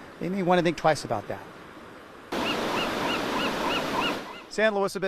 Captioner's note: seagulls squawking